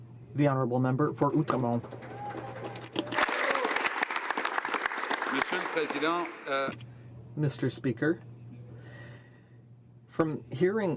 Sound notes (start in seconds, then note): 4.7 speaking French